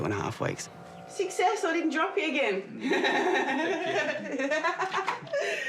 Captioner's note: chortles